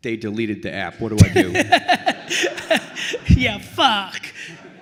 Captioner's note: laughing